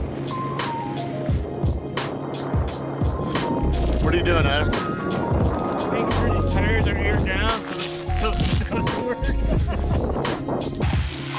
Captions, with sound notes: [wind noise] What are you doing Adam? Just making sure these tires are aired down so the studs work [laughing]